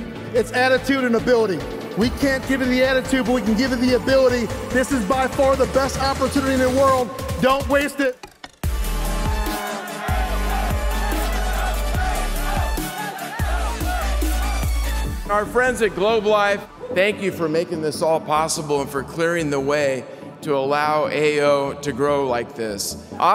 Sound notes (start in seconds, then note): 8.6 upbeat music; 8.7 people cheering